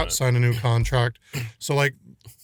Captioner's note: clears throat